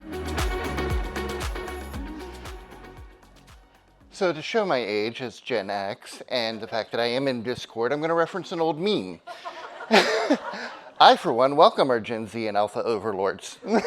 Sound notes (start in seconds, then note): 0.0 upbeat music; 9.3 laughs; 9.3 audience laughing